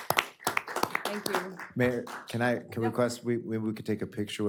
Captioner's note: applause